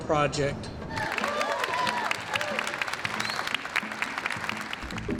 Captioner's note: audience applauding